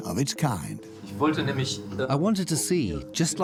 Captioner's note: in German; dubbed in English